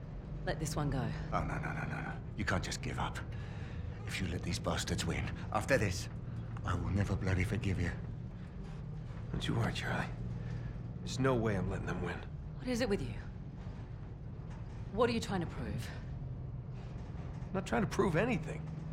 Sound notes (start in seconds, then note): none